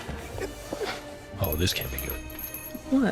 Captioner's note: doorbell jingles